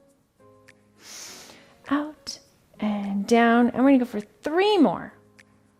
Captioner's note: inhales